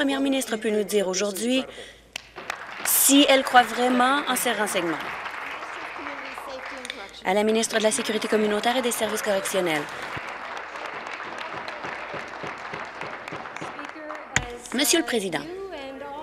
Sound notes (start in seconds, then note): 5.3 applause; 15.5 applause